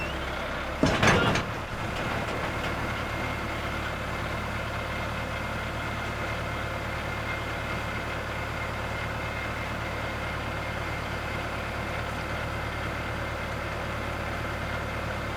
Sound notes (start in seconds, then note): 2.9 tractor stalling